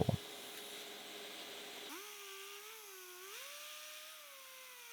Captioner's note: machine whirring